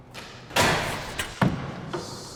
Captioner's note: door clatters